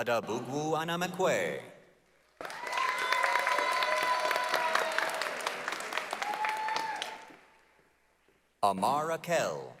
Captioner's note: applause, cheering